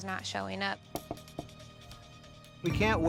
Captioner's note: knocking